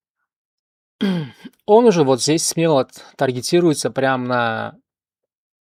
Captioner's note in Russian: откашливается